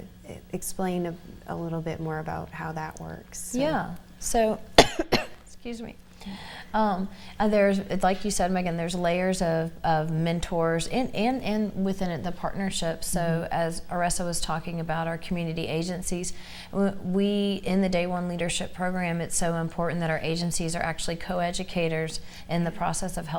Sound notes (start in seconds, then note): 4.7 coughing